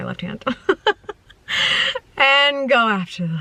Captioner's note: laughing